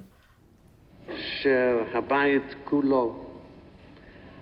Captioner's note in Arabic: الصوت المنطوق باللغة العبرية